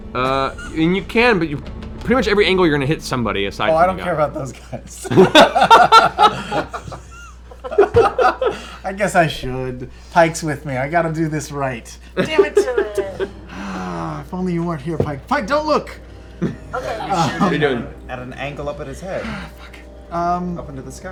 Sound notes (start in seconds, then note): 5.0 laughter; 12.6 groans